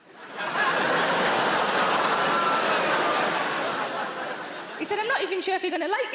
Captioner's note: audience laughing and groaning